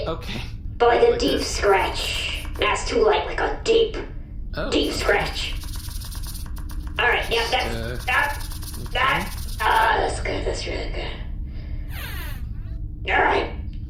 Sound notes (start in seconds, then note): 4.8 Pleck scratches harder